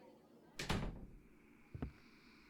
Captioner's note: door closes; outdoor evening ambience; footsteps